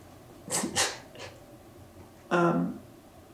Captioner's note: cries